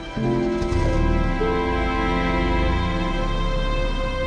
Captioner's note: engine revving